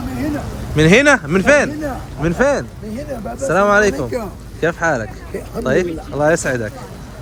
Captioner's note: Arabic